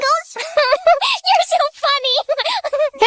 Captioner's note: giggling